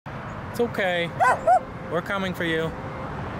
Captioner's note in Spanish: Ladra